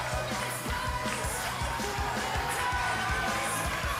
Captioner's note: cheers and applause